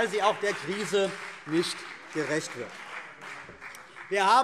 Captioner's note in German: Beifall CDU und BÜNDNIS 90/DIE GRÜNEN